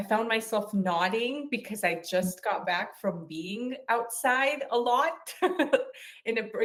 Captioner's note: chuckles